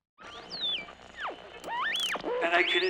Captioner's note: buzzing